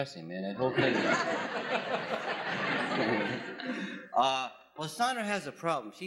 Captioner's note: laughs